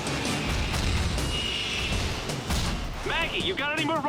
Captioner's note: buttons click, rockets blast and explode